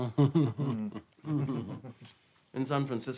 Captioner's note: laughs